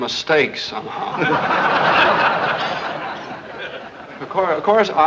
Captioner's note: laugh